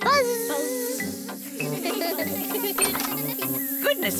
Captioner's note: all laugh